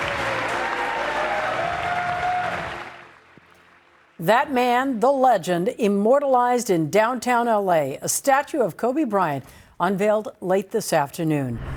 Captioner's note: applause